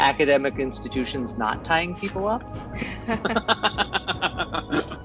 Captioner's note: cast laughs